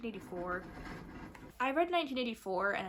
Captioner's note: hamster wheel sounds